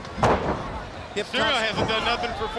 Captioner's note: Rey Jr thudding